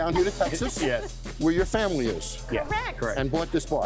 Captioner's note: couple laughs